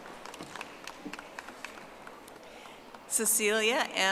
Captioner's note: audience applauding